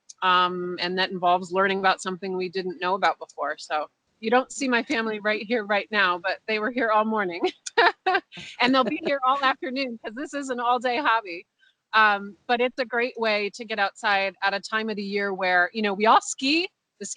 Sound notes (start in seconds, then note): 7.4 laughs